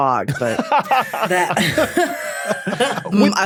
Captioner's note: others laughing